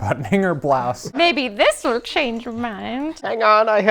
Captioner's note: old lady voice